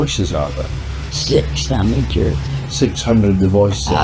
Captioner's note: Demonic voice